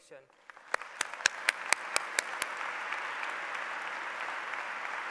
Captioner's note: applause